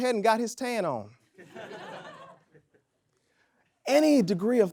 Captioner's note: audience laughs